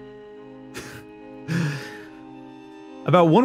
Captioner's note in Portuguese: risada seca